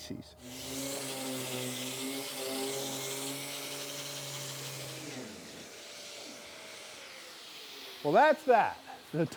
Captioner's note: sander whirring